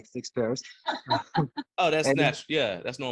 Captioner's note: laughing